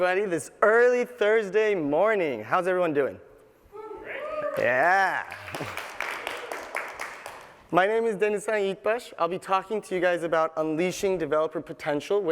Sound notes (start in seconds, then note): 4.1 cheers; 5.1 applause